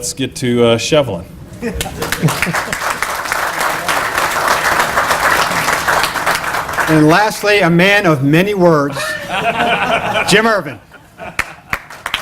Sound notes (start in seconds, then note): 1.8 applause; 8.9 laughter; 11.3 applause